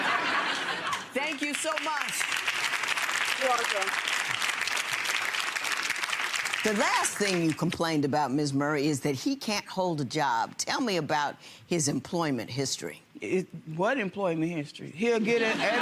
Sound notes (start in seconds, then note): 0.0 audience laughter; 2.7 audience applause